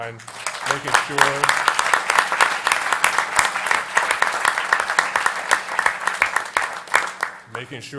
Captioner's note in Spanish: Aplausos